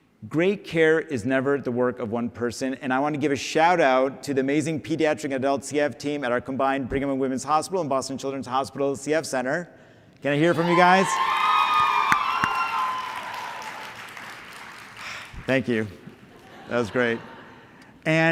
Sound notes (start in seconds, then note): 10.5 cheering; 13.4 applause; 14.9 exhales; 16.3 laughter